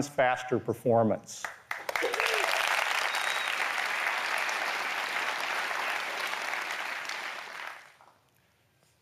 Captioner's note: applause